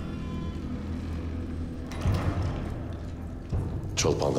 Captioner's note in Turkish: Kapı kapanma sesi